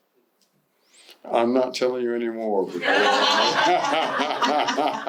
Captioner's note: laughter